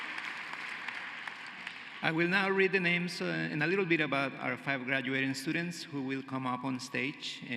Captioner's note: cheering and applause